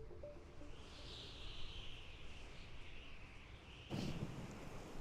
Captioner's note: wind blowing